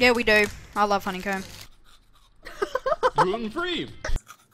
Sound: laughing

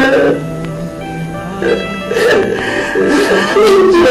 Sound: Celia, Emman crying

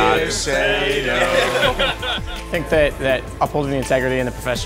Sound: laugh

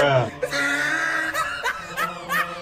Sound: loud wheezing laughter 2

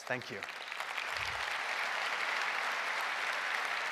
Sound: applause

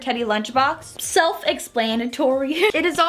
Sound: laughs

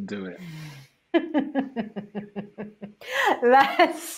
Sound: laughs

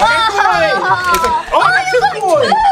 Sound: excited Exclamations

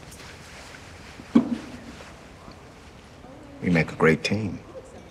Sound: glass thuds

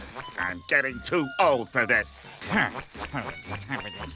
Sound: Patrick giggling

